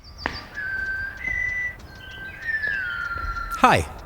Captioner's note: whistling